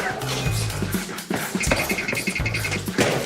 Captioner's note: clip-clop, clip-clop